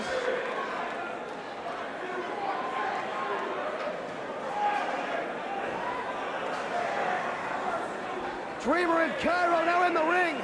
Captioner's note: crowd chatter